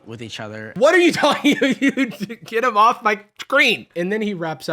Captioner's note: laughing